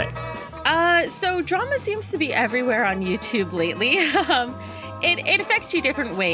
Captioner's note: laughs